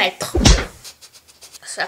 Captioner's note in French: snif